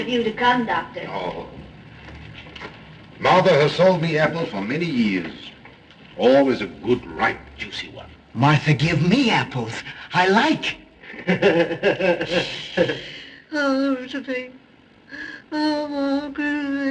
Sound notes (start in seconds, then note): 11.0 laughs